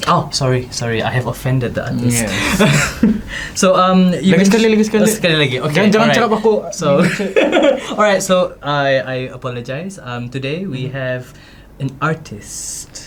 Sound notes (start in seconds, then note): 5.9 laugh